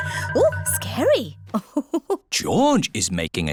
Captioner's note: laughs